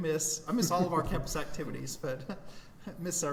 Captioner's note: chuckling